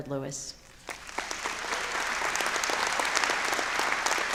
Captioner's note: audience applauds